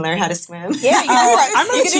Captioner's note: ladies laughing